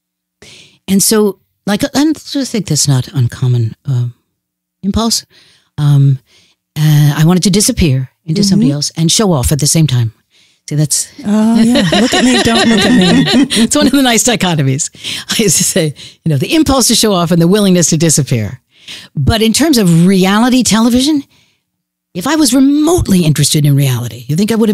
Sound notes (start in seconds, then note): 11.2 laughs